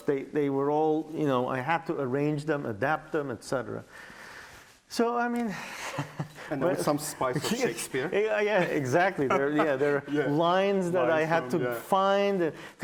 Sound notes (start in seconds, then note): 5.8 laughs